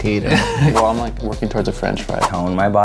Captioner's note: laughs